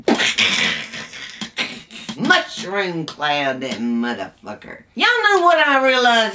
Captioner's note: crash